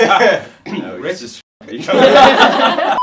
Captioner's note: laughing; coughs; all laughing